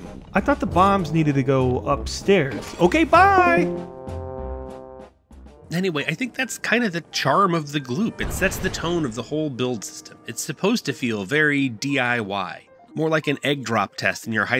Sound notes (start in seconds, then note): 5.6 Discord call end SFX